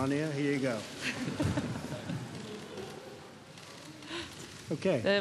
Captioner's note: laughter